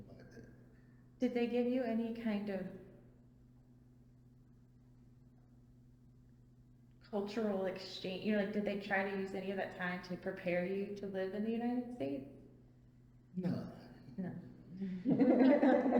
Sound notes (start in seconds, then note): 14.8 all laugh